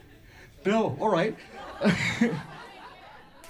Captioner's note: laughs